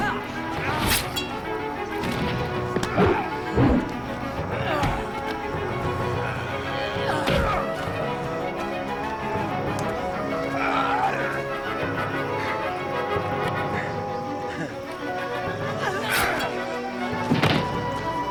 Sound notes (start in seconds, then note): 0.5 slicing; 2.4 thud